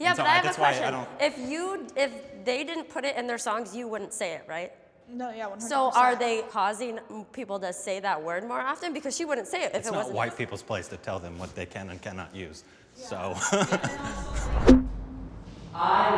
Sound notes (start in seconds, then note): 13.2 laughing; 14.9 chord strikes